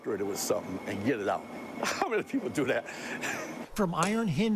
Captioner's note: laughs